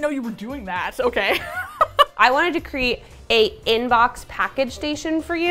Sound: laughs

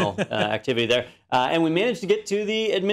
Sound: laugh

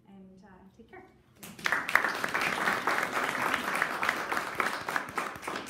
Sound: audience applauding

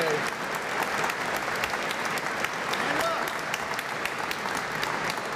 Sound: applause

